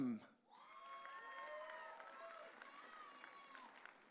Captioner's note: audience cheering